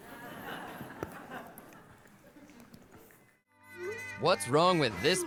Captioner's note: audience laughing